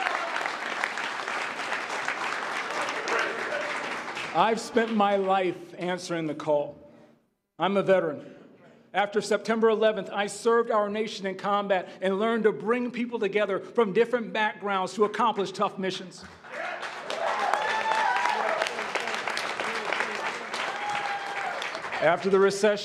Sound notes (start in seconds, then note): 3.1 applause